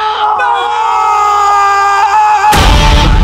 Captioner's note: Rahat screams